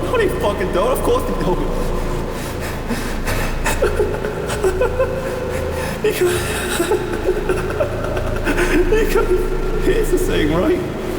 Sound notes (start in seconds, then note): 1.7 heavy breathing; 3.6 laughter